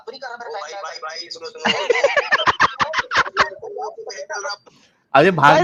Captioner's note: laughter